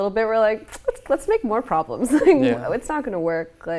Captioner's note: laughing